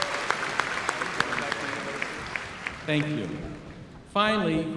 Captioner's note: applause